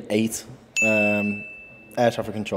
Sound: bell dings

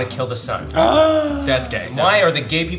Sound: gasping

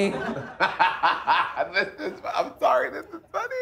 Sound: laughing

